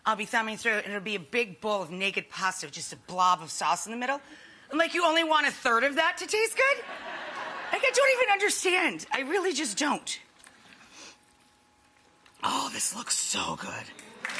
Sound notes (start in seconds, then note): 6.7 audience laughing